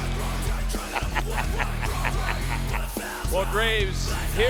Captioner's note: Booker laughs